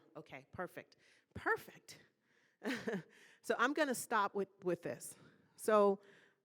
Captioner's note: laughing